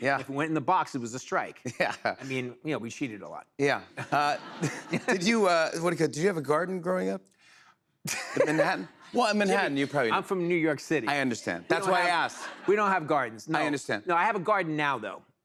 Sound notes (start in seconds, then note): 3.9 laughter; 8.1 laughs